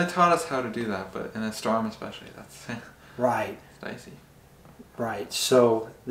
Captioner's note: chuckles